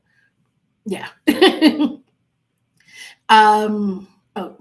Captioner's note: laughing